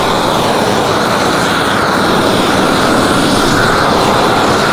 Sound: air whooshes against plastic

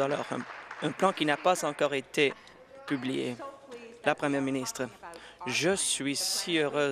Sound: applause

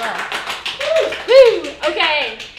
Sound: applause

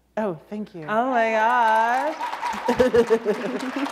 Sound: applause

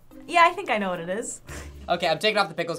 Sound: laughs

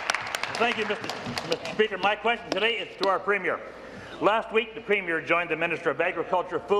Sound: applause

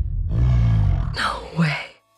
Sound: yeti growls

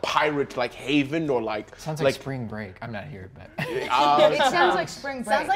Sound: laughs

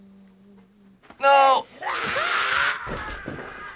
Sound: Sam growls

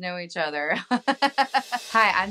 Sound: chuckles

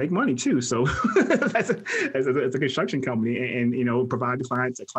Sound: laughs

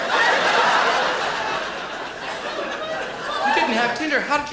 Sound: laughter

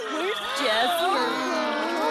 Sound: all chattering

